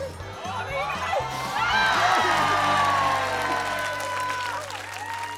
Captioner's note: cheering, applause